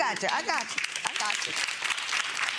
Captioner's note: audience clapping